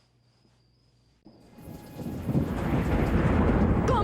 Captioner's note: thunder